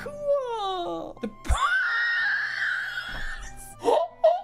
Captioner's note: wheezing; laughing